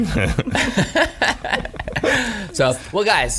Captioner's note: laughing